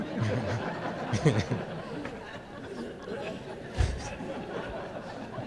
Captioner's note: laughter